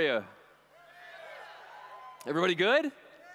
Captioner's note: cheers